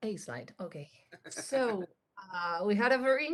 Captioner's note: chuckles